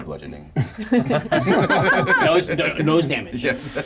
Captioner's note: laugh